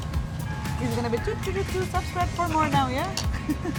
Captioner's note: humming